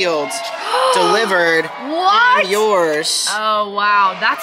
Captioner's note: gasps